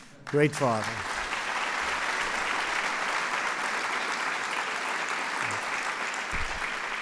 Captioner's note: applause